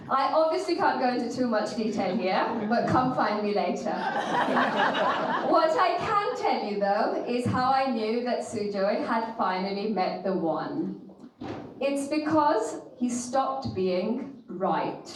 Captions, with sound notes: I obviously can't go into too much detail here, but come find me later. (audience laughing) What I can tell you though, is how I knew that Sujoy had finally met the one. It's because he stopped being right.